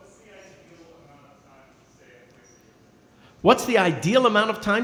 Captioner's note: speaking softly